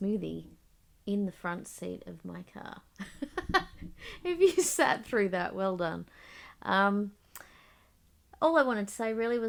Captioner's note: laughs